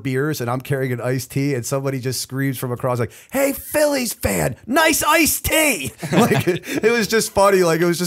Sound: chuckle

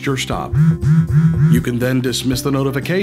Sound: multiple phone vibration sfx

